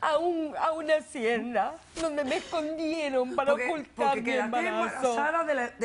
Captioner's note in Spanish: Sollozos